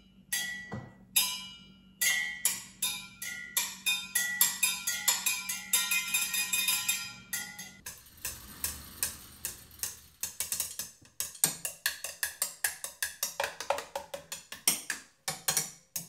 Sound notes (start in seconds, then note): 8.0 chopsticks tapping